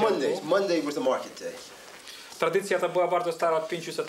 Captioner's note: speaking Polish